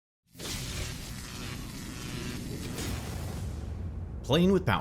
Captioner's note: electricity Buzzing